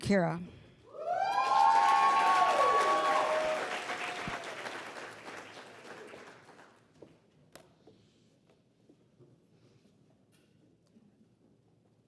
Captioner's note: applause